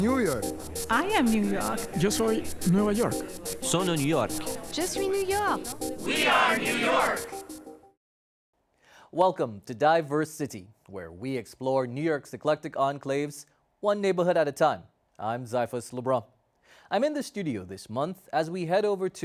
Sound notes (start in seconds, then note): 2.9 Spanish; 5.6 French